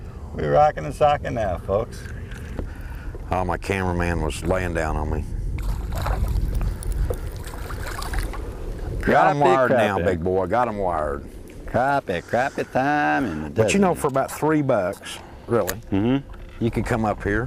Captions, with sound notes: we rockin and sockin now. ah my cameraman was laying down on me [splashing] got wired them now, got them wired crappie, crappie time in the Deseret. You know for about 3 bucks really, you can come up here.